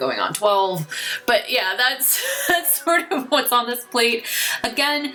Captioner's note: laughs